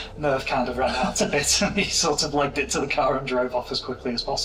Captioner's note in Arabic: يضحك